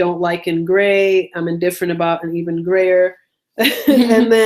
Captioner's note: laughs